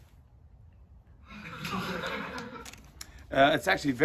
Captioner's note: laughter